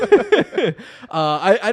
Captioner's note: laughs